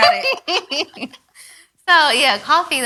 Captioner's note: all laugh